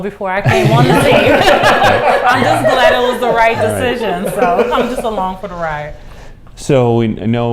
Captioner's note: laughter